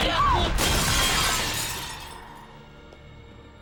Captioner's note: glass shatters